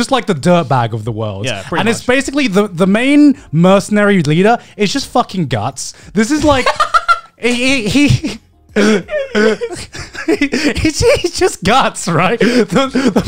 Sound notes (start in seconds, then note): 8.7 both laugh